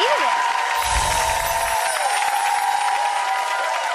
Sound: applause

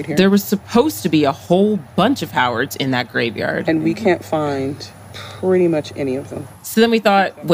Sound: sighs

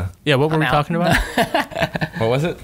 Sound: laughter

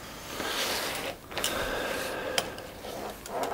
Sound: he sighs

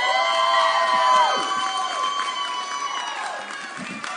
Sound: audience cheering

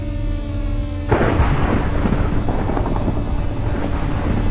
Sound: thunder

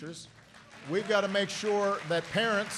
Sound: applause

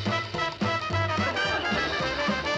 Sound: laughter

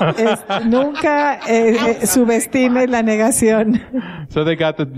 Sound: laughing

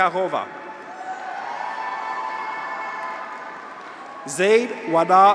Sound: graduates cheer; audience applauds

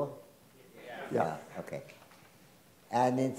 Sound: some Members Of Crowd In Unison

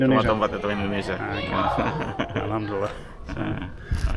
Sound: laughing

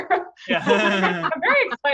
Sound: all laughing

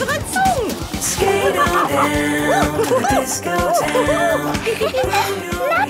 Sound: laughing and exclaiming

